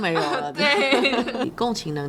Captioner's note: laughter